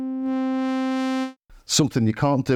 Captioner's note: silence